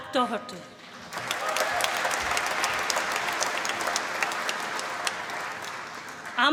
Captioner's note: applause